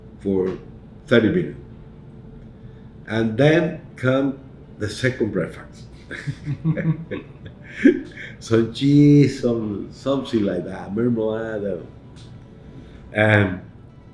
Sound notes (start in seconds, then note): 5.9 chuckles; 5.9 laughs